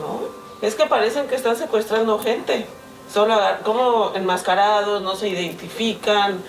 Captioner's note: student continues speaking in Spanish